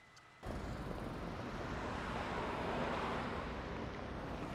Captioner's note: traffic humming